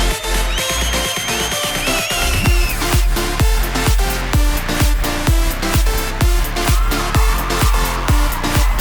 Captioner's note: applause; applause